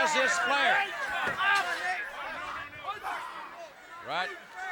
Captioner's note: audience chattering